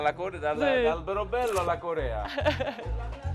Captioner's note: haha hahaha